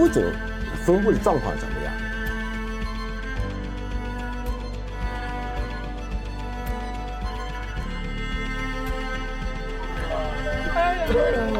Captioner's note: speaking in foreign language